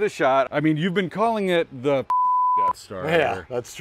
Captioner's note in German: Piepton